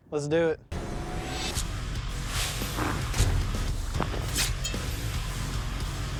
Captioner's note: impact sounds